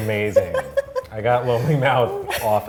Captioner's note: laughing